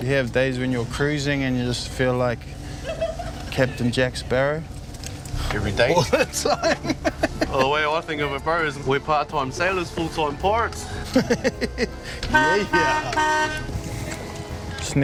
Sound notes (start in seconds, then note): 5.8 laughing; 10.9 laughing; 12.0 boat horn honking